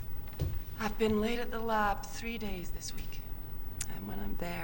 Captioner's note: none